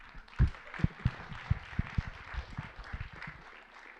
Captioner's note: applause